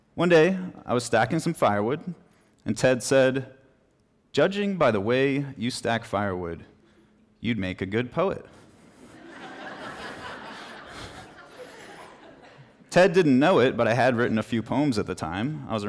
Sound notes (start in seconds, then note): 9.0 laughter